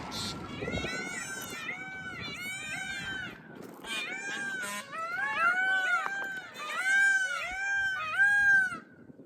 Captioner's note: various animal sounds